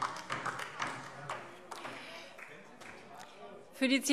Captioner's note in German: Beifall DIE LINKE